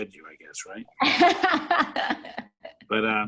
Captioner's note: laughs